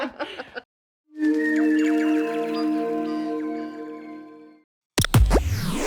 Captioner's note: both laugh; birdsong, mystical chiming; static buzzes, whooshing, warm tone